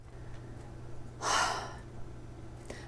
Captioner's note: sigh